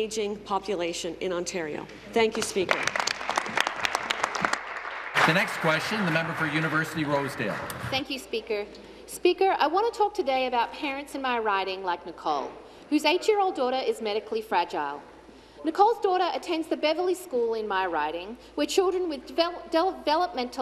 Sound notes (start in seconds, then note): 7.8 applause